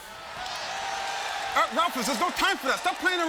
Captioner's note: crowd cheers